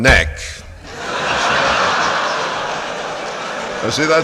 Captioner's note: laughter and applause